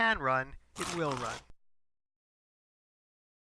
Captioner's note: chomp